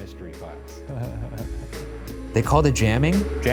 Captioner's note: laughs nervously; mysterious music